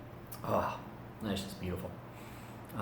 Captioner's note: breathes out loudly